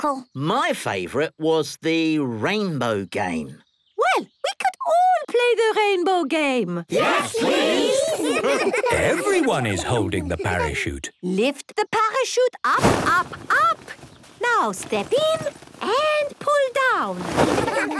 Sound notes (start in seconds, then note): 8.0 laughter; 17.4 laughter